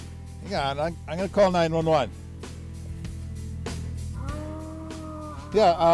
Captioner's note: groaning